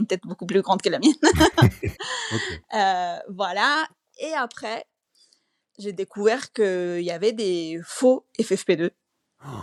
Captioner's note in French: rires; réaction choquée